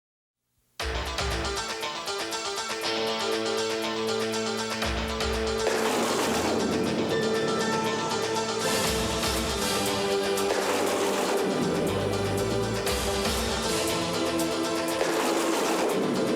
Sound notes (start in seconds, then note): 2.3 crowd cheering